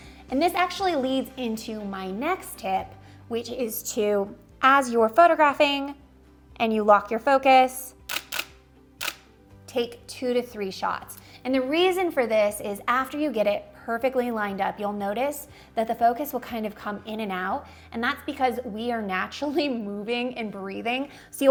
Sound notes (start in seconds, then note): 8.0 camera shutters